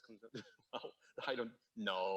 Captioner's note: lecturer chuckles